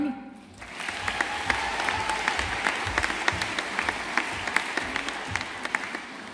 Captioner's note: audience applauding